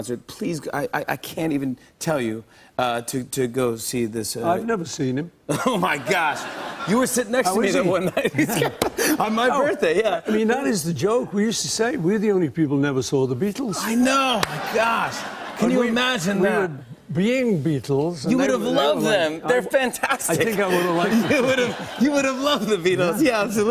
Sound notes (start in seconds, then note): 7.4 laughing; 20.2 laughter